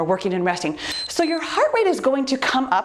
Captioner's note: timer beeps